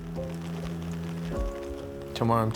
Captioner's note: rain patters